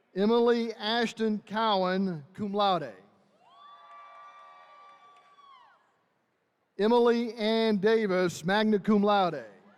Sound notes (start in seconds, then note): 3.4 attendees cheering